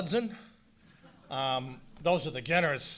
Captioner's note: audience laughing